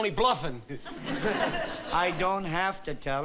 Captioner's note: laughter